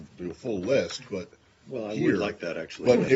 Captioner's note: laughter